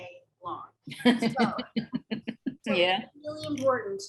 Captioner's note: laughs